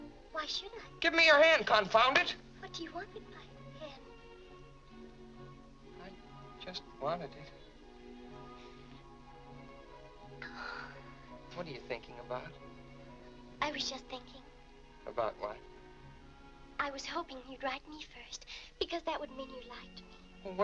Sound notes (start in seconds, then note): 10.4 Mary sighs